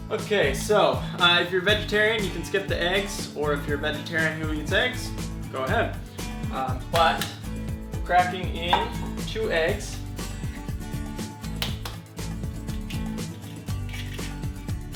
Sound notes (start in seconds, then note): 11.6 shells cracking